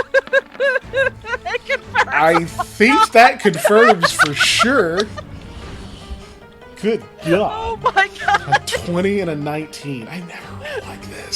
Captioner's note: laughing